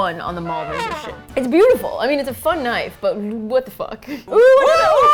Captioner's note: laughs